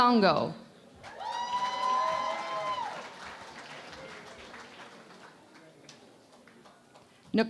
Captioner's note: cheering and Applause